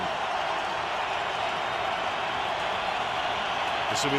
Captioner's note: cheering